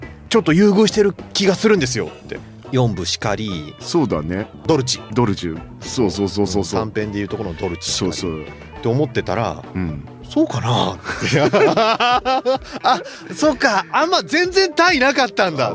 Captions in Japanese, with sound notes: 4部しかり。 そうだね。 ドルチ ドルチ。そうそうそうそうそう。 短編でいるとこのドルチ。 そうそう て思ってたら うん。 そうかなって。あ、そうか。あんま全然タなかったんだ。待って。 [笑い]